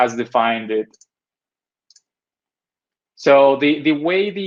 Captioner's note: mouse clicking